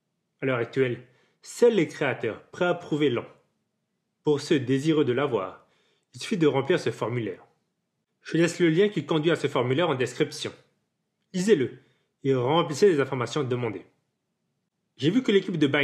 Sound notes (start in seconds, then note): 12.4 french